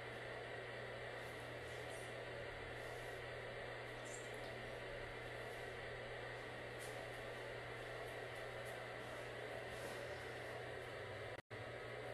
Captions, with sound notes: (whispering) Yes! He's sleeping! (white noise plays)